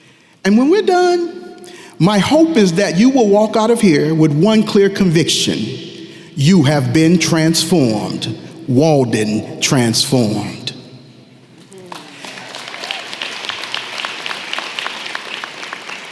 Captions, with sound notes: And when we’re done, my hope is that you will walk out of here with one clear conviction: You have been transformed. Walden transformed. [applause]